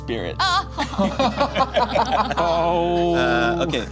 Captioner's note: group laughs